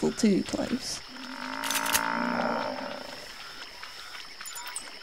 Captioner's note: banteng bull moos loudly nearby